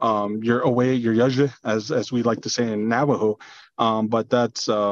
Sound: foreign language

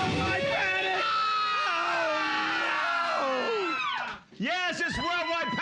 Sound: screaming

